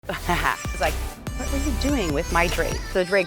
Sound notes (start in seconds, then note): 0.1 laughs